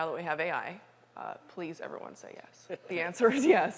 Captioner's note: laughter